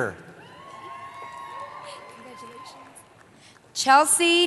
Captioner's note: cheering